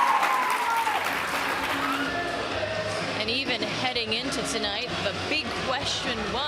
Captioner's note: applause